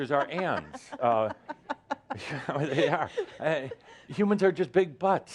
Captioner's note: she’s giggling